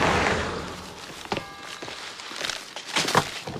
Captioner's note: bell tolling distantly